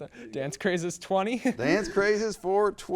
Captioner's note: laughs